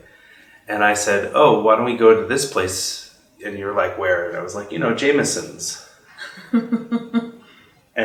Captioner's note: laughs